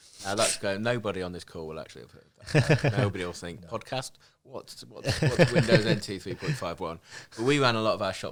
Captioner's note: laughing